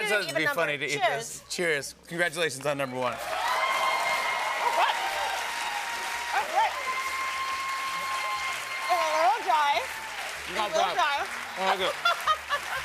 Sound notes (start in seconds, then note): 3.4 cheers and applause